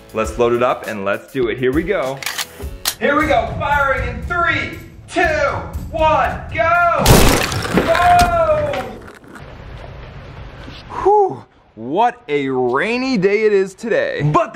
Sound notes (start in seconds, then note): 7.0 gunshot crashing; 9.8 rain pattering